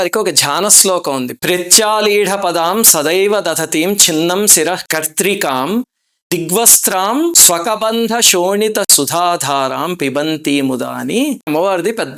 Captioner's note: reciting verse